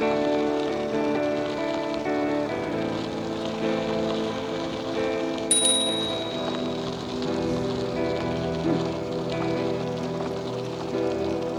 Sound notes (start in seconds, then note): 5.5 bicycle bell dings